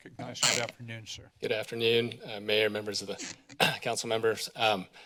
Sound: clear throat

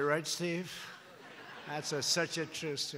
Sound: laughter

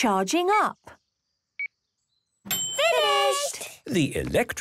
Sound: dings

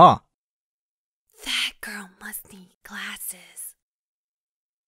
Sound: whispers

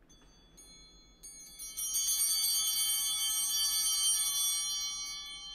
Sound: bell ringing

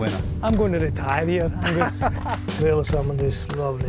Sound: both laughing

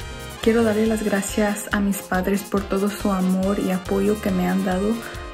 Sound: speaks in foreign language

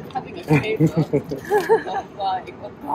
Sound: both chuckling

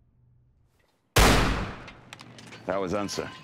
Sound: gunshot firing

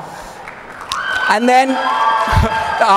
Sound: hooting

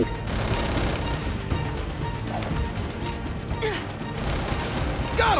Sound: gunfire

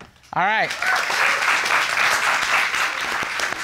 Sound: audience clapping

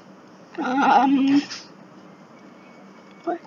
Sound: silence

